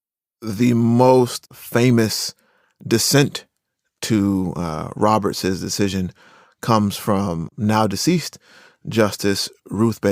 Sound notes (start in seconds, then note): none